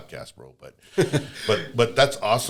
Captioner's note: laughter